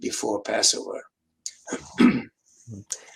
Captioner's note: clears throat